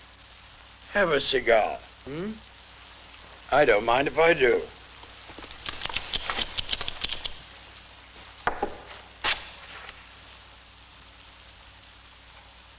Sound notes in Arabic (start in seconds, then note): 4.5 صوت الولاعات